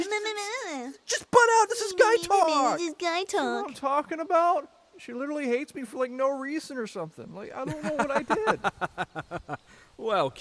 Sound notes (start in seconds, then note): 2.3 mockingly